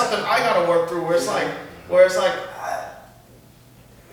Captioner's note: grunts